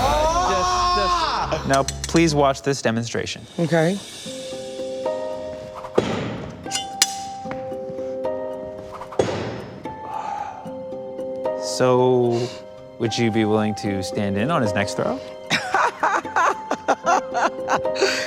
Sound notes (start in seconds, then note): 0.0 screaming; 6.7 knife hits board; 9.3 knife hits board; 15.5 laughing